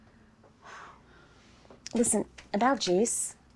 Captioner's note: sighing